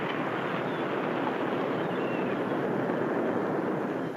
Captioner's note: seagulls caw